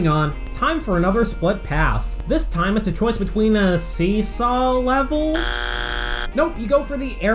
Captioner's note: bzzt